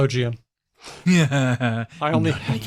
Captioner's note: chuckles